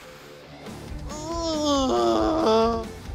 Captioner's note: groans joyfully; dramatic music plays